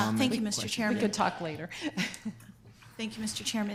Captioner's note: laughs